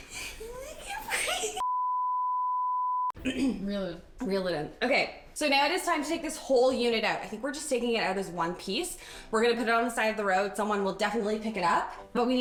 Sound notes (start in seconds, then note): 0.1 laughs; 1.6 recording beeps; 3.2 clears throat